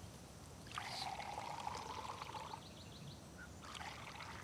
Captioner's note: beer trickles